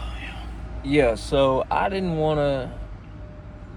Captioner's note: sigh